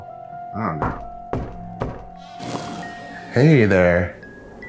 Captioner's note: door knocking